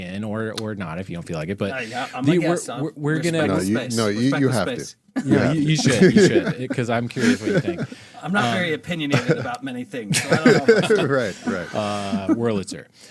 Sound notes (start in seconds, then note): 10.0 laughing